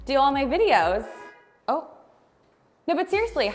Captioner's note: car horn honking